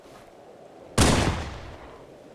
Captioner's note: gunshot